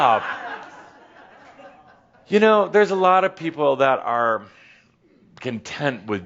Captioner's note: more chuckles